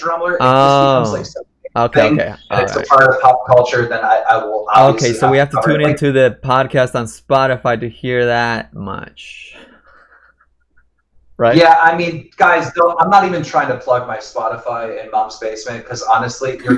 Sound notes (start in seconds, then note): 9.6 laughs